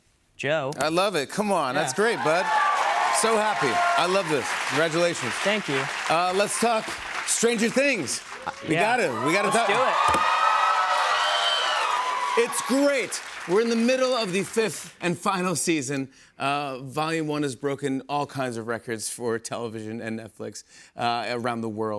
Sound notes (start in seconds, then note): 9.7 cheers and applause